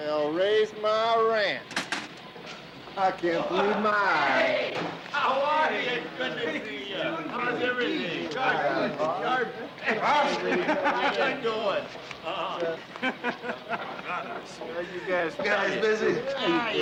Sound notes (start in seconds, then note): 12.3 men laughing